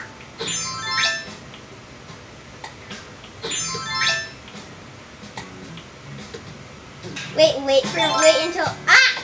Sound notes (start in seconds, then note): 0.2 chimes as outfit changes; 3.4 chimes as objects move